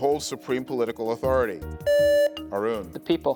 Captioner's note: buzzer beeps